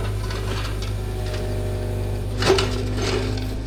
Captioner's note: machinery whirring